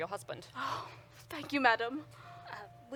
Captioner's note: deep sigh